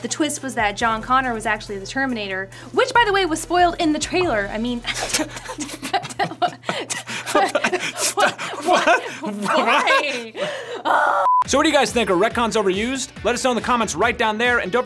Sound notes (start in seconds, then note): 5.4 both sputtering; 11.4 yells